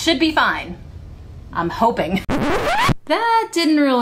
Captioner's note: record scratch